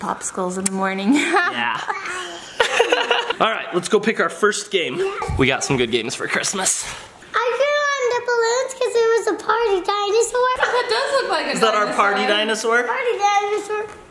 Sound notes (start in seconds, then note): 1.2 laughing